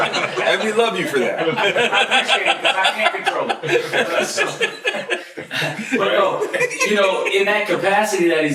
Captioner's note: laughter